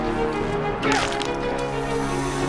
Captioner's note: crack